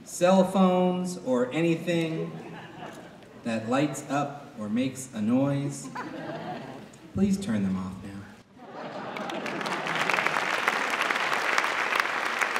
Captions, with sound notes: Cell phones or anything that lights up or makes a noise, please turn them off. (Applause)